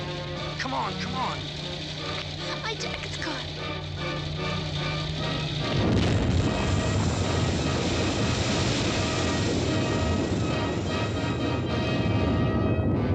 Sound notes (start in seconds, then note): 5.5 truck exploding; 8.1 dramatic instrumental music